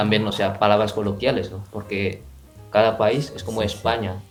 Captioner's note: Spanish